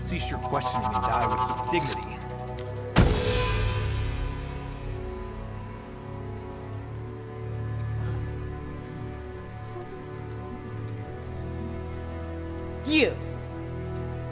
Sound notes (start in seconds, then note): 3.1 gunshot